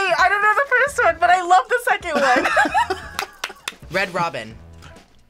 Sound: both laugh

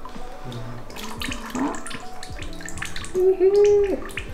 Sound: glaze splashes

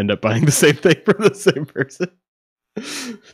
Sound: laughing

